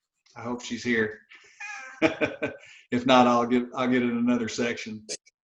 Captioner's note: laughs